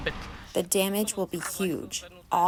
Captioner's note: through translator